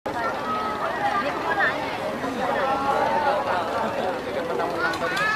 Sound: conversations voice

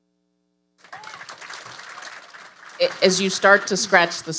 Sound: audience applauding

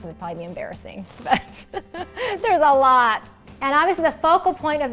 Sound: laughs

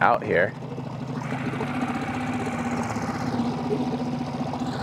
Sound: motor rustling

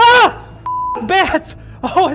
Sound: yelling; beep

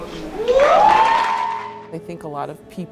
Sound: cheering

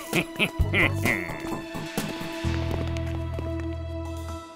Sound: laughing

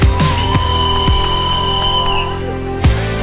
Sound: whistle and cheering

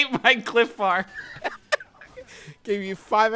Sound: laughing

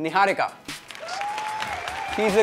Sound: cheering

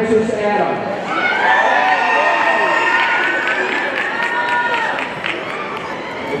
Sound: audience cheering and applauding

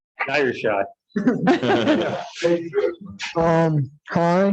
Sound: laughs

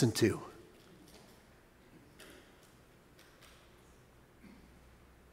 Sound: congregation murmurs

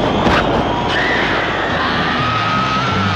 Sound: shrieking yell

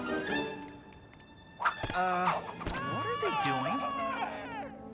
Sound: yelling

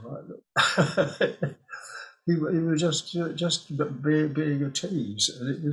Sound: he laughs

